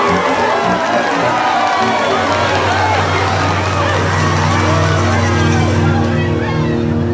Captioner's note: all cheering